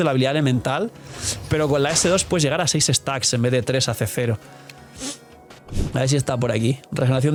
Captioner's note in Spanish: resoplido